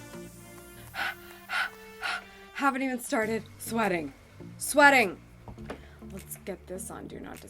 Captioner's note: gasping